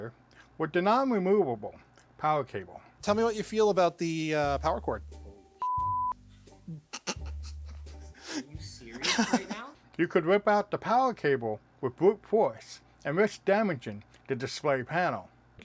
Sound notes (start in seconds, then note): 9.0 laugher